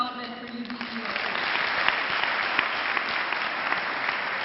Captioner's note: clapping